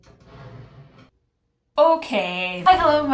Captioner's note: chair screech